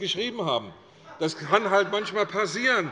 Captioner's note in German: Lachen